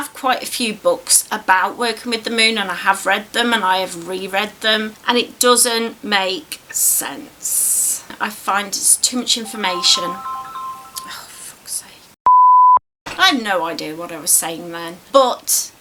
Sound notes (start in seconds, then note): 9.4 phone rings; 12.2 beep